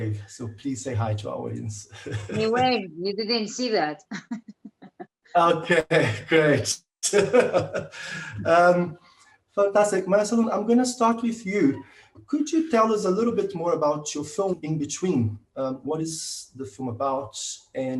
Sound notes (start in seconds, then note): 2.1 laughing; 4.3 laughing; 7.0 speakers laughing